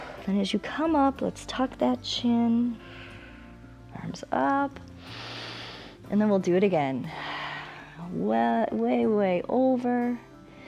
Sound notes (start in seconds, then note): 5.0 exhales; 5.0 inhales; 7.1 exhales